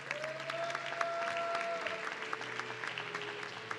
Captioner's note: audience cheering